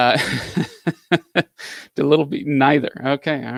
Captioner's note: laughs